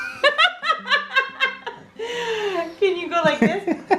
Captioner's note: laughs